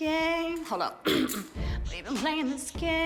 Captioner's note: clears throat